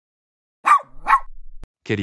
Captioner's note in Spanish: FX - Dog Bark - 01